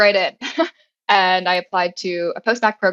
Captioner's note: laugh